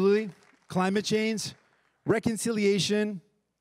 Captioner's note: everyone applauding